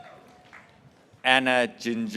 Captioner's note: graduates cheering